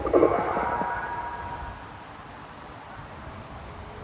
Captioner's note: telephone noise